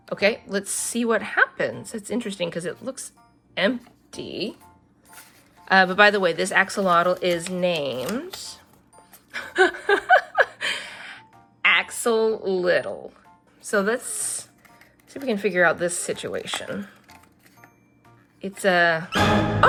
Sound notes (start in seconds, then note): 9.4 laughs